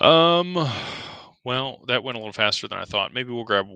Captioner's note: sighs